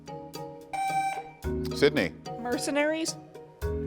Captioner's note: tone sounds